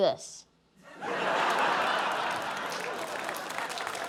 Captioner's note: laughter, applause